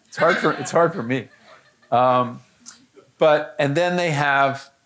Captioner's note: audience laughing